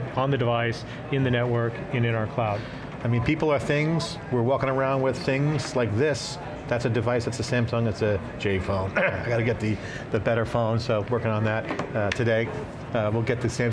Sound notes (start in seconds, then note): 8.9 ahem